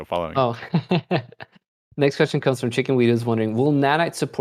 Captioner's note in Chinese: 笑声